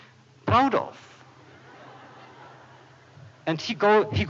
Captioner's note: laughter